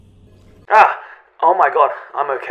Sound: waking up noises

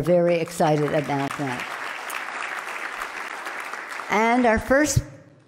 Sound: loud clapping

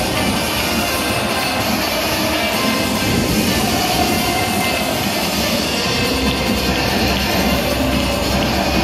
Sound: firework

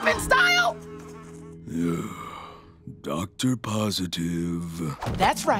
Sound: sighing

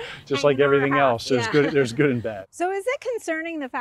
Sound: laughs

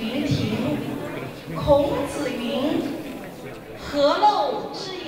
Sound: speaking in Mandarin

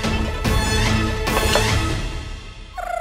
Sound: clanking

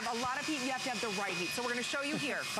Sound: laughter

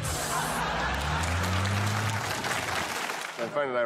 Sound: audience laughing

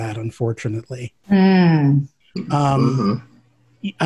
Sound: sounds of agreement

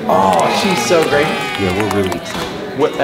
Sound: crowd cheering

